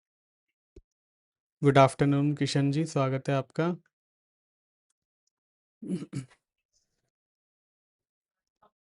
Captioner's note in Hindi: गला साफ़ करने की आवाज़